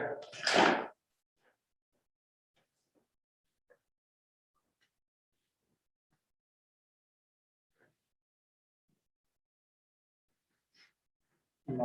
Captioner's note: door slamming